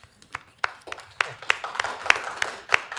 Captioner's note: applause